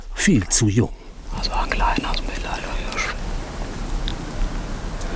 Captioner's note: whispers